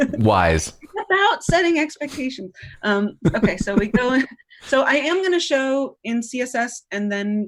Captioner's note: laughter